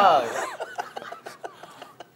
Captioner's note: laughing